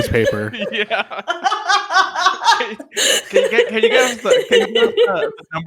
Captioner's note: laughter